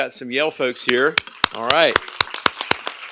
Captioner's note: applause; clapping